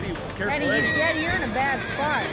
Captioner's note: horse neighing